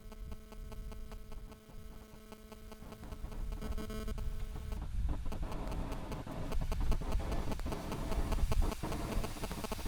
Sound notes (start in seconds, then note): 0.0 electronic feedback; 7.1 vents hissing